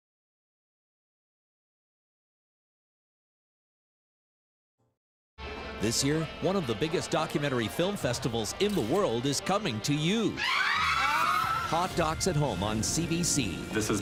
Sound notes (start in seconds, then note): 10.3 screaming